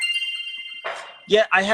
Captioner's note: bell dinging